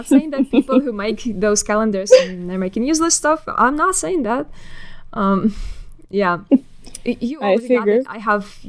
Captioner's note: laughing